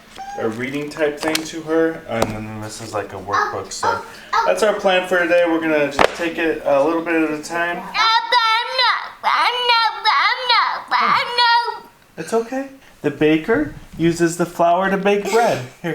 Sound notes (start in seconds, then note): 8.2 upset babbling